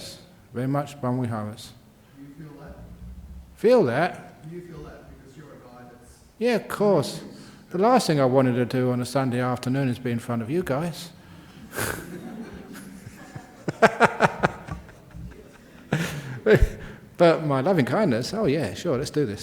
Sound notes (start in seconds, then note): 15.1 laughter